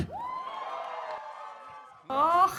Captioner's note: audience cheers